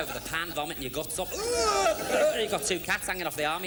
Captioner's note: imitates being sick